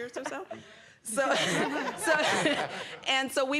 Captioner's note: laughter